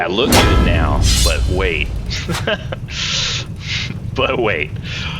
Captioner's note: laughs